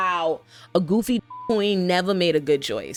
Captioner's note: beep